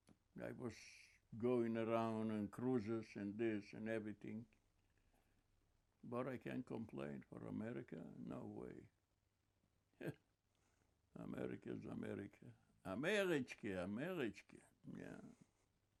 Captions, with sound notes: And I was going around and cruises and this and everything. But I can't complain for America. No way. [LAUGHING] Americans. America. [YIDDISH] Yeah.